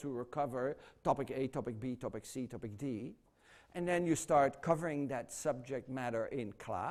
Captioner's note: none